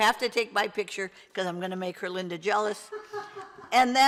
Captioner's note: laughs